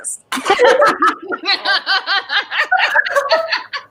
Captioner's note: all laugh